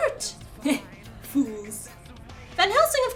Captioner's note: laughs